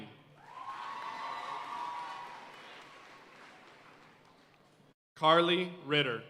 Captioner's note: audience cheering and applauding